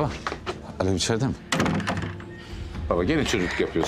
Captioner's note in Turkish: Kapı kapanma sesi